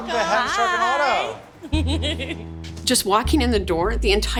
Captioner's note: laughs